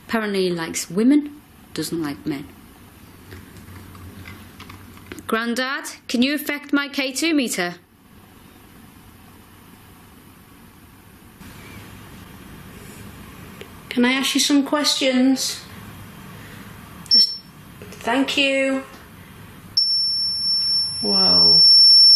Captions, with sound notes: Apparently, he likes women, doesn't like men. Granddad, can you affect my K2 metre? - Can I ask you some questions? (metre beeps) Thank you. (metre beeps) Whoa.